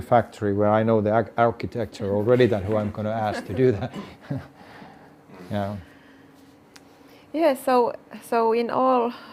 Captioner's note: laughs